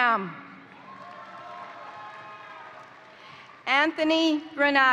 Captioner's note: crowd cheering; crowd applauding